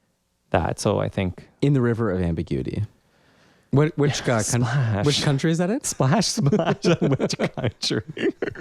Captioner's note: laugh